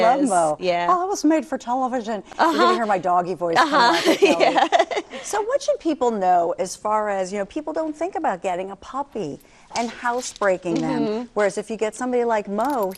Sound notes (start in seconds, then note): 3.6 laughing